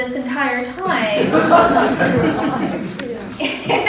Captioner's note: laughter